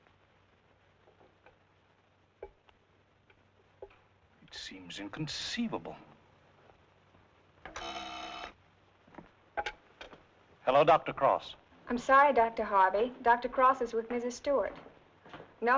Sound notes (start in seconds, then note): 3.2 receiver rattling; 7.7 phone ringing